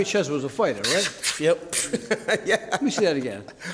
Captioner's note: laughs